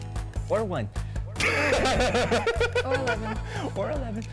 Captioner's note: laughs